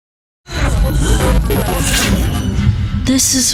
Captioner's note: distorted noises, groaning